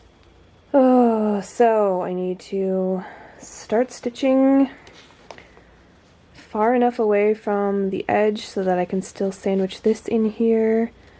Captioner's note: groans